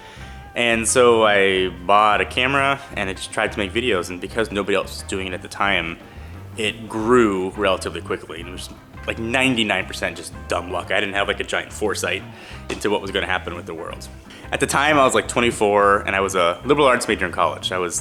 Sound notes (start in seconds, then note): none